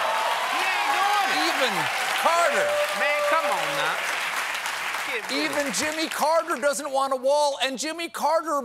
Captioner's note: cheers and applause